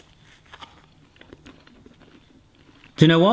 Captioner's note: chewing